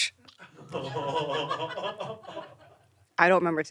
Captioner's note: producers laughing